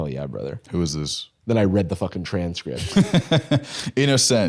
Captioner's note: laughs